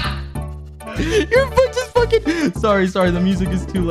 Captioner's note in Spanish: inhala